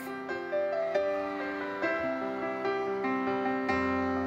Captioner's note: audience cheers